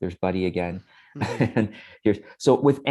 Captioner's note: chuckles